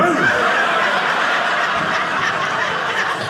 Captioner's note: audience laughing